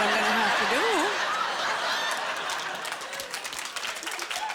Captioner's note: applause